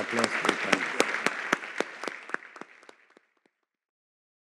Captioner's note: audience clapping